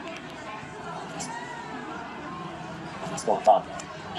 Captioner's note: background club noise